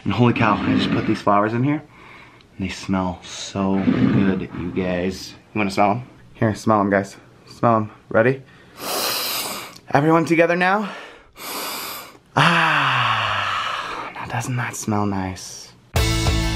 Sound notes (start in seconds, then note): 1.9 inhales; 10.8 inhales; 10.9 inhales and exhales; 16.0 upbeat music